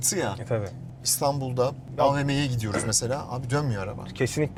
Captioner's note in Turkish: boğazını temizler